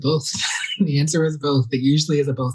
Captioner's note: laughs